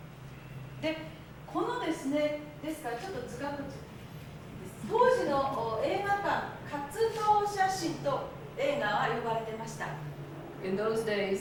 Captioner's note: speaking Japanes